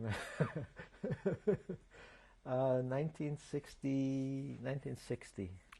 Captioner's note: laughs